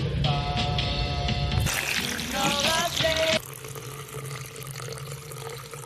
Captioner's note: coffee pouring loudly